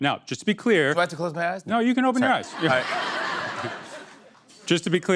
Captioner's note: laughter